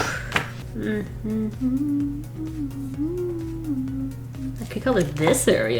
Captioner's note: deep inhale; hums tunefully